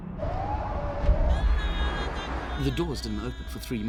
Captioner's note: siren wailing; singing in foreign language